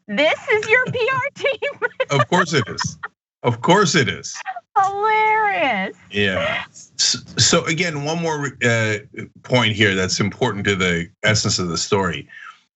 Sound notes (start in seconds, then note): 0.2 laugh